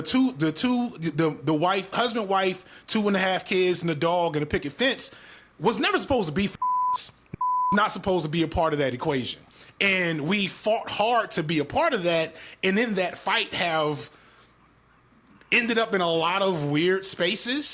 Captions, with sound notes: The two, the wife, husband wife, two and a half kids and the dog and a picket fence was never supposed to be (beep) not supposed to be a part of that equation. And we fought hard to be a part of that and in that fight have ended up in a lot of weird spaces.